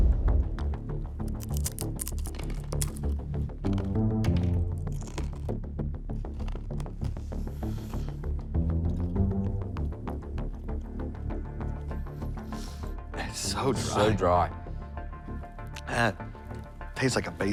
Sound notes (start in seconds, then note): 1.2 crunching